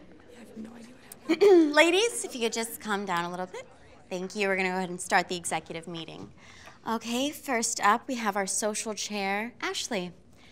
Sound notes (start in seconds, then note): 1.7 clears throat